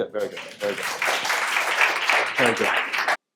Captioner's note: audience applauds